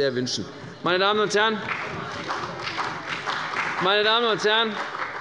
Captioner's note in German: Beifall bei der CDU und dem BÜNDNIS 90/DIE GRÜNEN